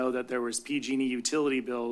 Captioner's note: none